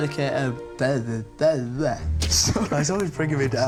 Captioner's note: stammering